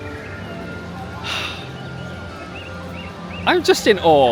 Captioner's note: sighing